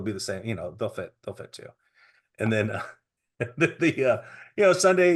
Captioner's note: chuckling